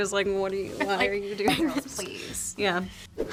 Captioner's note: graphics pop